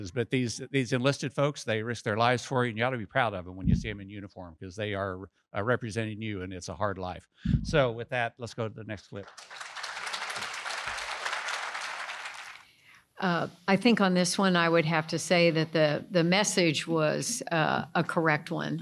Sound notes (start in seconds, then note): 12.6 applause